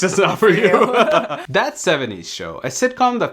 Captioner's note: laughing